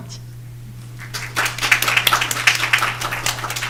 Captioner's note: applause